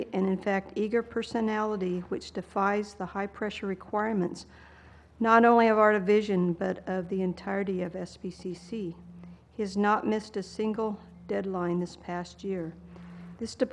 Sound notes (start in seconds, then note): none